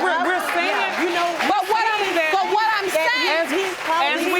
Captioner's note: all clamoring